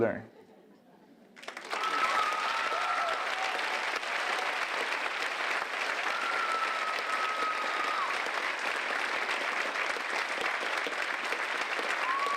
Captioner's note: applause